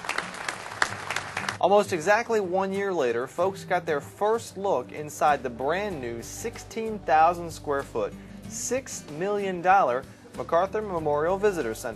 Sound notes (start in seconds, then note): 0.0 applause